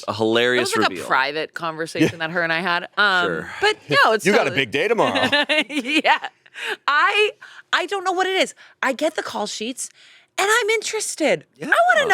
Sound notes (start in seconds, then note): 5.0 laughs